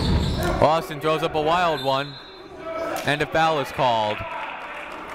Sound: whistle blowing

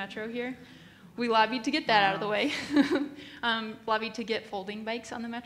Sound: laughs

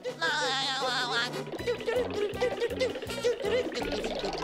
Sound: laughing; humming

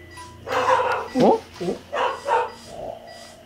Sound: barking

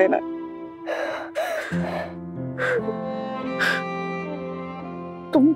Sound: crying

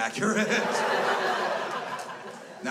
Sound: crowd laughs

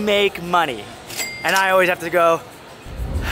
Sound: cash register opening

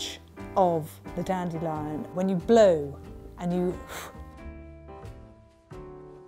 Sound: exhales

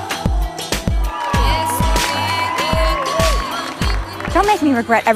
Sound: cheers, applause

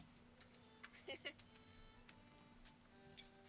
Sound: laughs

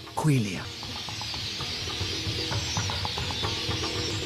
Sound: chirping

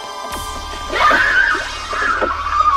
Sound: music swells; Nancy Screams

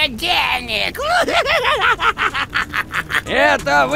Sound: laugh

